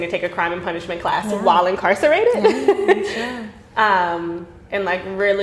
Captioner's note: laughing